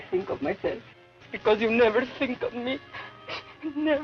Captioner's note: sobs